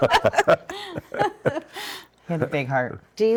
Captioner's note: laughing